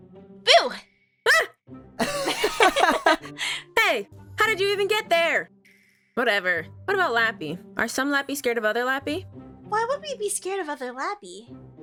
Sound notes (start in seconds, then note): 1.4 screams; 2.0 laughs